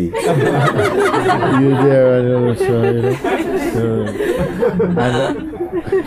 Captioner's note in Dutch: imiteert een ongelukkig mens - verder gelach